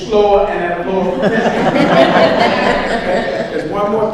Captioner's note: audience laughs